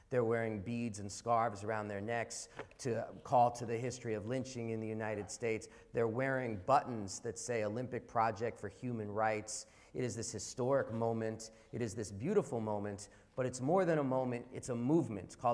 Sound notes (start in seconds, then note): none